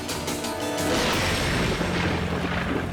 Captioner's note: thunder booms